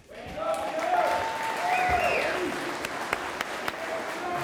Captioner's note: audience applauding